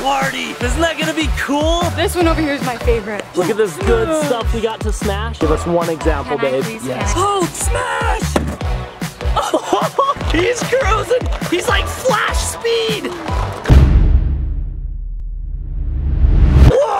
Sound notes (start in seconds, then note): 8.2 dull thud; 9.3 laugh; 13.6 dramatic sound effect